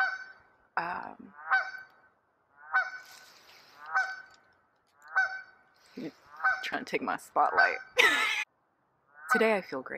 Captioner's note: laughs